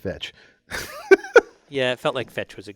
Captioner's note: laugh